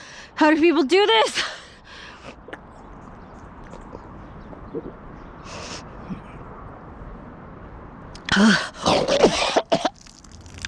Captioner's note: vomits